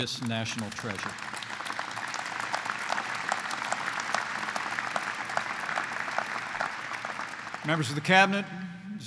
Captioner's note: applause